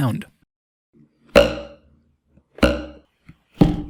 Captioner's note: ruler vibrates